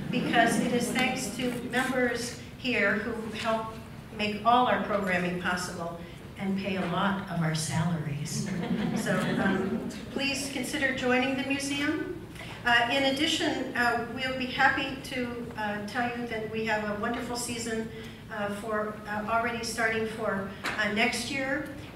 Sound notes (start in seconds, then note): 0.0 laughs; 8.4 laughs